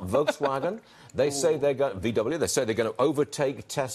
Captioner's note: laughter